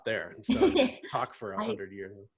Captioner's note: laughs